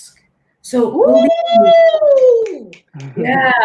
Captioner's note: applauding